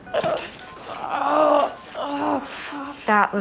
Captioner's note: groans